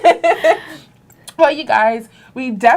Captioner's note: laughter